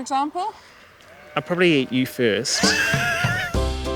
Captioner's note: laughs